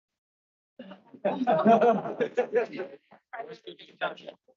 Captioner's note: people laughing